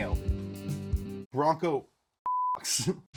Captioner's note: beeps